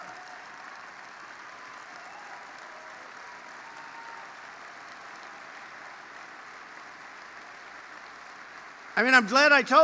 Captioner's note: applause